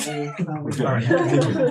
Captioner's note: laughing